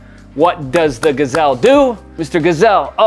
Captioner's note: hands clapping